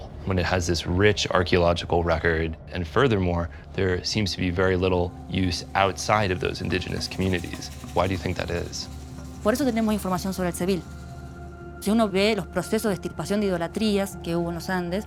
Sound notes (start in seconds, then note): 9.2 speaking Spanish